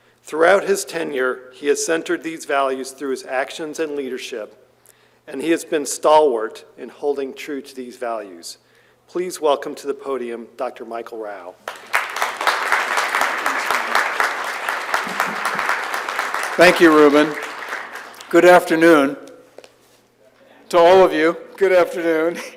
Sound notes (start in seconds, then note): 11.6 applause